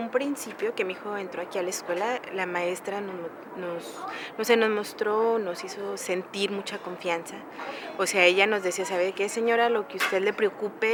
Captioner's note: speaking in a foreign language